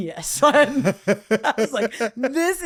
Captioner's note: laughing